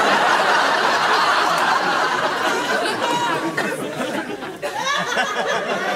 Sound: audience laughs

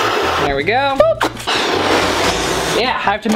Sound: blowing sound

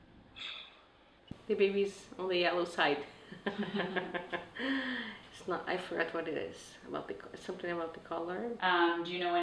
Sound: laughter

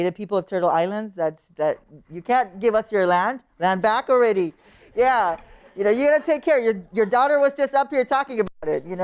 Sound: laughter

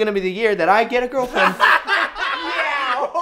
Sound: laughs hysterically

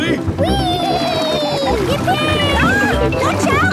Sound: George giggles

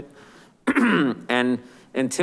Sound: clears throat

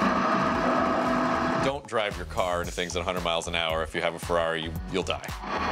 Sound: crashing

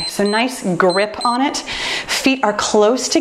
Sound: timer beeps

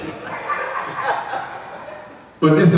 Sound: audience laughs

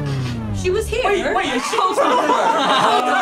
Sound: everyone laughing

